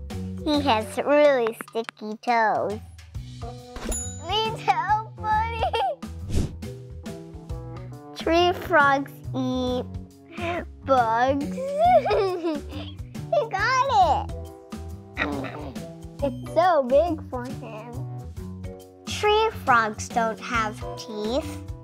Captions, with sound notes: He has really sticky toes. (bell chimes) Need help, buddy? (air whooshes) Tree frogs eat bugs. (giggles) He got it. (frog grunts) It's so big for him. Tree frogs don't have teeth.